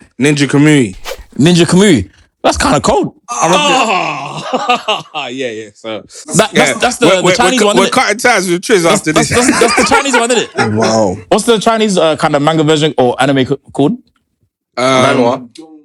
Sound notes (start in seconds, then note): 3.5 laughter